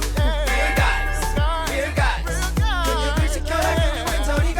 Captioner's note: wedding bell sounds